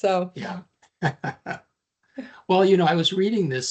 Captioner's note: laughing